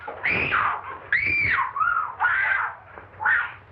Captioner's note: shrieking